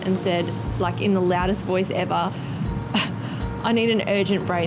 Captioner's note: laughs